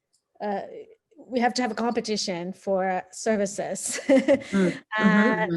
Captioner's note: laughing